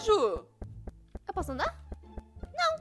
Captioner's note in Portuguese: Barulho de passos